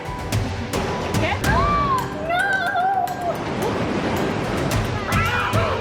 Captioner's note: woman exclaims; gasps